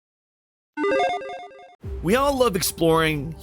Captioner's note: electronic start up noise